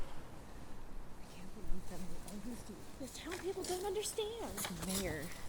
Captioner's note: Rangers conversing